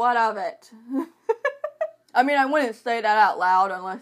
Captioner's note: laughing